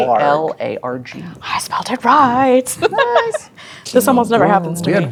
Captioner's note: laughs